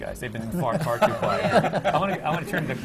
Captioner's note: laughter